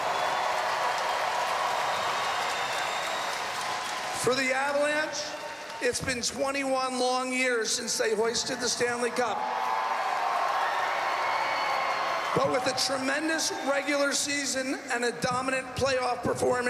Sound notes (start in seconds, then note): 4.3 applause; 4.8 cheering and Applause